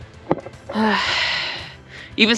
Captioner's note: sigh